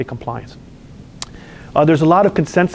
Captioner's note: lip smack